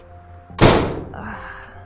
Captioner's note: slam!!